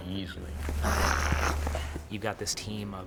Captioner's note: snarling